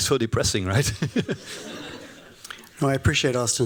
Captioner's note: laughter